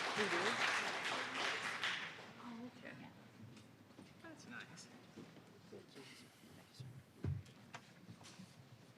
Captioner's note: applause